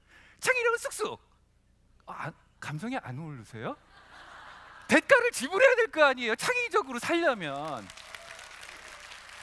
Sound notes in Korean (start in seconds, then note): 3.8 웃음; 7.4 박수와 환호